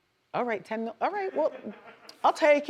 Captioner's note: man laughs